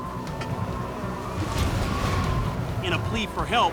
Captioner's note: wind blowing